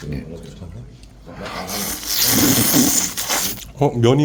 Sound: slurping noodles

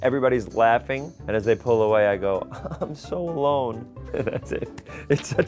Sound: laughing

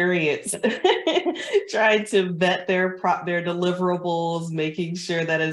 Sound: chuckles

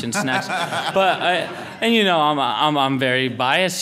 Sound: laughter

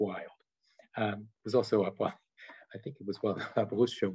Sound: chuckles

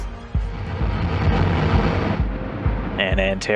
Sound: fire blazing

